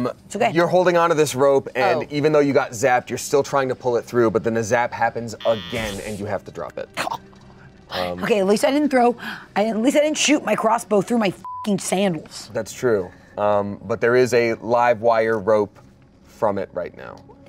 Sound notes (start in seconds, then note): 11.4 beep